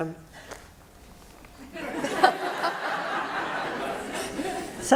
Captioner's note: laughter